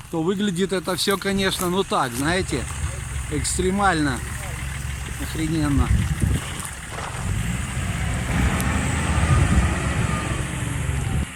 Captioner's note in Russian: Звук мотора